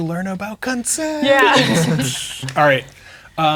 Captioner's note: players laughing